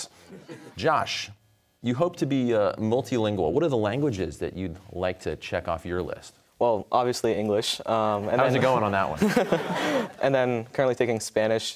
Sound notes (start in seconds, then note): 9.1 audience laughter; 9.1 laughter